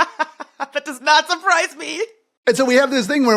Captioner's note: laugh